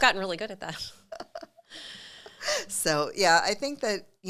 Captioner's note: both chuckling